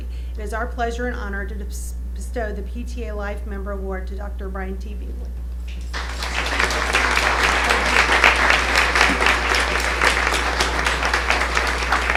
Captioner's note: applause